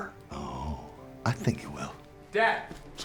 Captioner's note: scottish accent